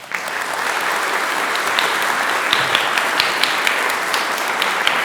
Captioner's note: applause